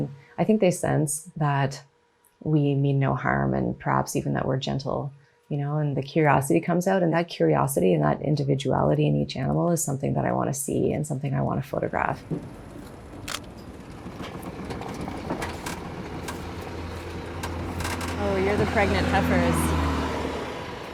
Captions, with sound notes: And I think they sense that we mean no harm and perhaps even that we're gentle. You know, and the curiosity comes out and that curiosity, and that individuality in each animal is something that I wanna see and something I wanna photograph. (camera clicking) (truck engine roaring) Oh, you're the pregnant heifers.